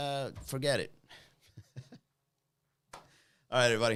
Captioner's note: chuckles